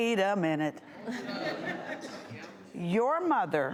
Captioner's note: audience laughing